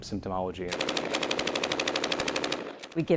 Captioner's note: loud automatic gunfire